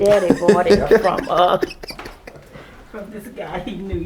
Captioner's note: laughing